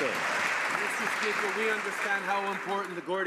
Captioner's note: some Applause